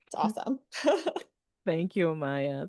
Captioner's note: laughs